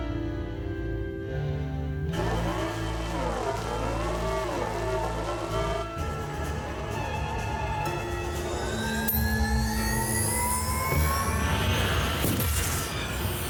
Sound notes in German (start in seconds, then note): 8.3 Energieentladung